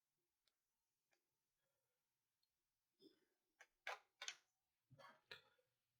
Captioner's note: silence